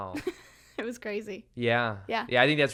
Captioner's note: laughs